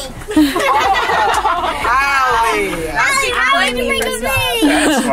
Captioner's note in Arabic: الجميع يضحكون